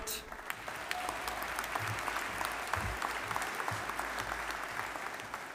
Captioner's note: audience applauding